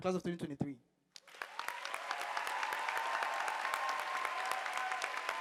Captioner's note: audience applauding